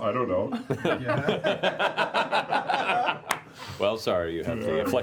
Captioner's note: laughter